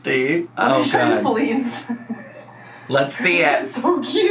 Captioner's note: laughs